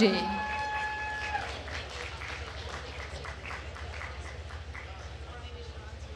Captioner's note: attendees cheering and applauding